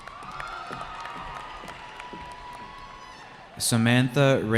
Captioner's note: cheering